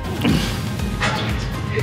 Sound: chuckles

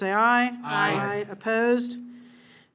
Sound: in Unison

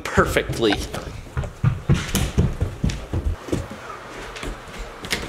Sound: feet thumping

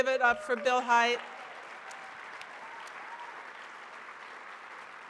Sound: audience cheers

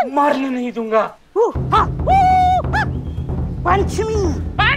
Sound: shrieking

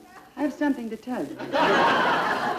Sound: audience Laughing

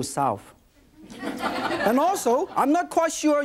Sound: audience laughs

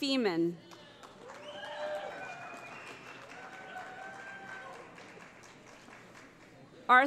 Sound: cheering

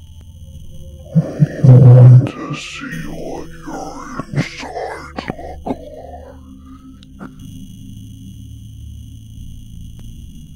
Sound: deep whispering voice

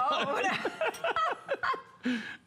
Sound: laughter

